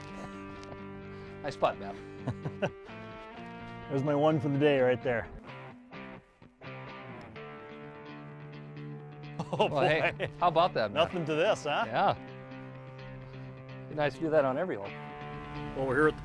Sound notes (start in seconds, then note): 2.0 chuckles